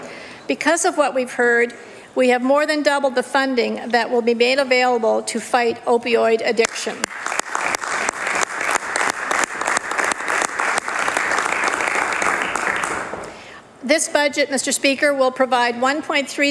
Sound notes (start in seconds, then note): 13.1 applause